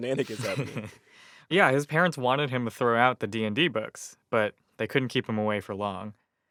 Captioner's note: laughter